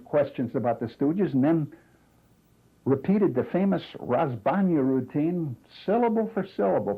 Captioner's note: non-english